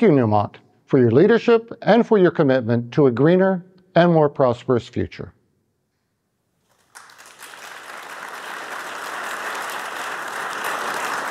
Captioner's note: applause